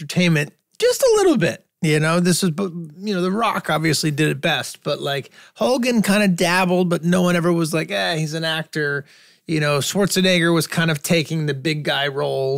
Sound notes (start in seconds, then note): none